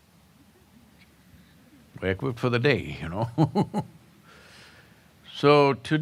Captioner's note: laughs